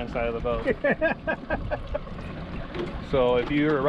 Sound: laughing

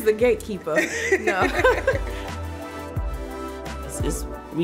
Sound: both laughing

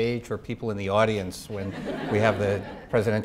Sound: audience laughing

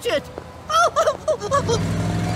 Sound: worried Daffy noises

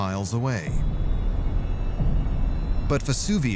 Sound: ominous music; deep rumble

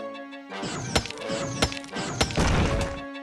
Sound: whirring

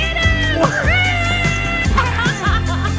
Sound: screams; laughs

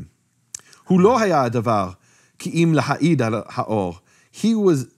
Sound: speaking in foreign language

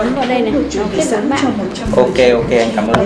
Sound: chatting

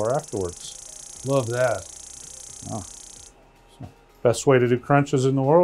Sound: machine pulsing

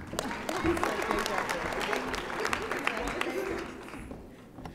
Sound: audience applauding

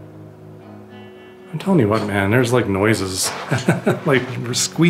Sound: laughter

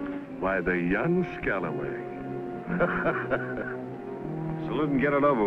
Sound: laughs

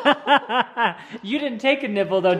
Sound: laughing

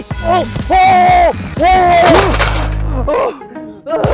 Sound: exclaims

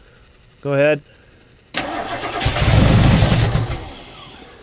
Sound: engine straining

